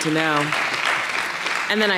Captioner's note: audience clapping